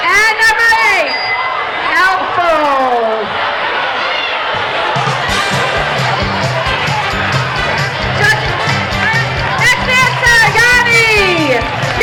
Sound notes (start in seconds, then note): 1.0 dinging